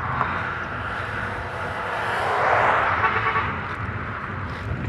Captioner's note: car horn 4x